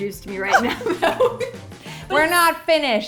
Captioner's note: laughing